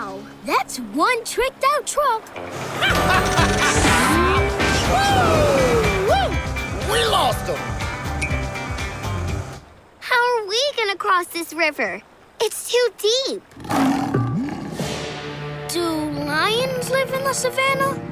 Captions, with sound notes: That's one tricked out truck. [laughing] Woo wee! We lost ‘em. How are we gonna cross this river? It's too deep. [growling] Do lions live in the Savannah?